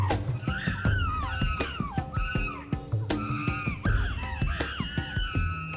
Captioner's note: chimpanzee grunting and screaming